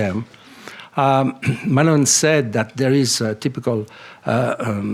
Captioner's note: clears throat